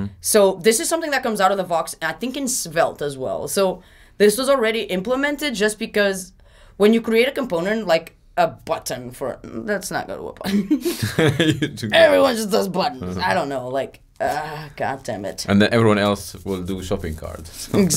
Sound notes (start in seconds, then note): 10.5 laughing